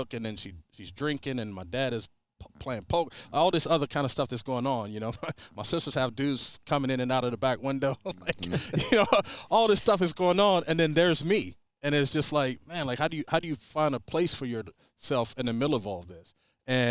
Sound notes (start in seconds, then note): 5.1 chuckles; 7.8 laughs